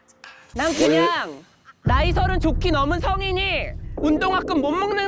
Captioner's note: sound effect: truth revealed; sound effect: rising frustration